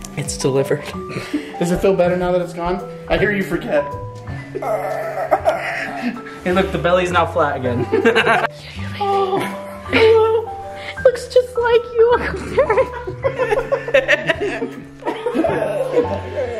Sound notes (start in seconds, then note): 4.4 groans; 7.7 laugh; 12.2 laugh